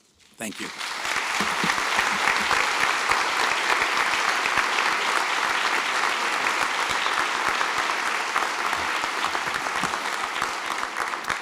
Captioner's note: applause